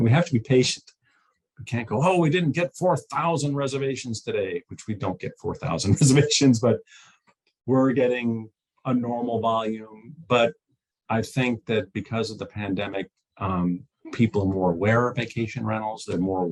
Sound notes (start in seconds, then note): 5.6 chuckles